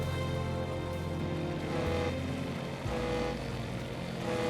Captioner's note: ship's horn sounds